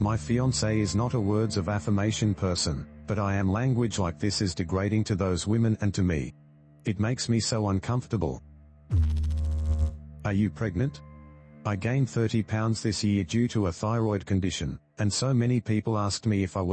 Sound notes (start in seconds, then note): 8.9 electrical noise